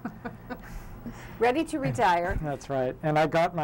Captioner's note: chuckling